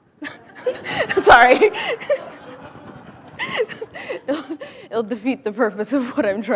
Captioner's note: laughing